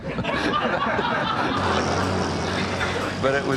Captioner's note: audience laughing